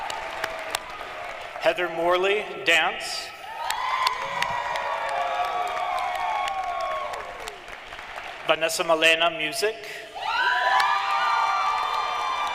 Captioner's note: cheering and applause